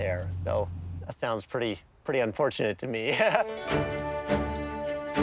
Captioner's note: laughs; instrumental music